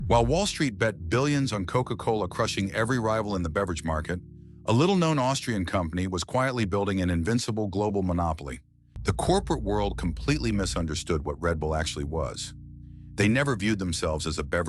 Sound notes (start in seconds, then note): 9.0 SFX: dramatic heavy boom